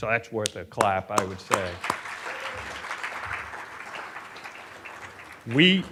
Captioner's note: audience applauding